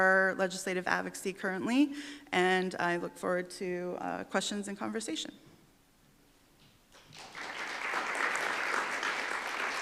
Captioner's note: applause